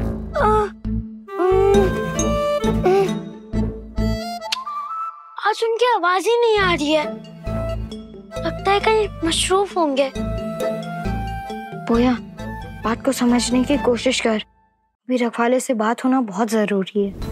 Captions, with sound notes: [groaning] [lip smacking] I can't hear him today. I think he must be busy somewhere. Poya, please try to understand. It is very important to speak to the 'Saviour'.